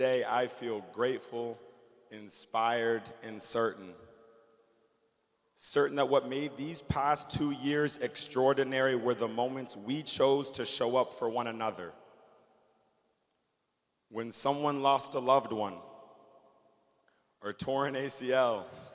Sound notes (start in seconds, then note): none